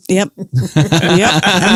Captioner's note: laughs